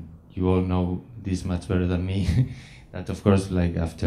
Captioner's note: laughs